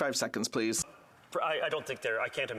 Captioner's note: speaking French